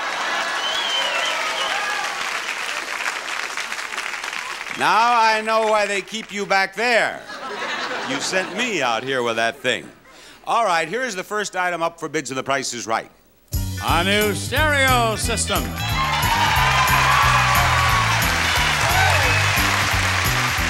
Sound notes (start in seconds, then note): 0.0 audience applauding; 7.1 audience laughing; 15.6 audience applauding; 15.8 upbeat music